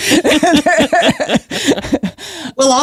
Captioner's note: laughs